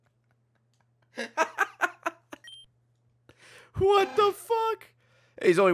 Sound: laughs

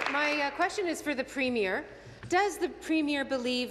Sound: applause

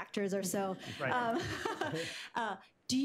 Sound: laughter

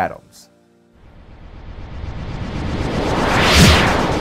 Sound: logo whooshing

